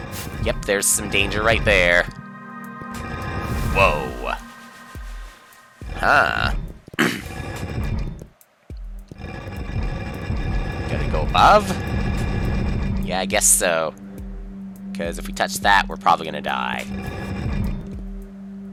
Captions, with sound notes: Yep, there's some danger right there. Whoa. Huh. (*clears throat*) Gotta go above? Yeah, I guess so. Because if we touch that, we're probably gonna die.